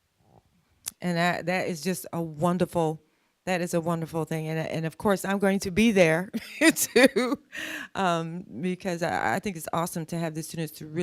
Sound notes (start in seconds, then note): 8.0 laughs